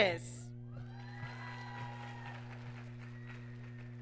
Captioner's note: applause